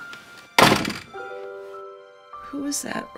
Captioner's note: dooor shuts